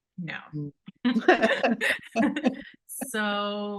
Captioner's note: both laughing